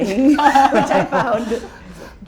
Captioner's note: laughs